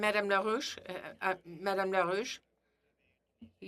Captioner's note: speaking French